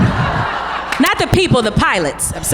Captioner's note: audience laughs